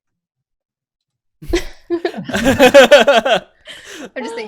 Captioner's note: laughter